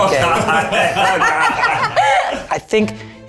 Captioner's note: laugh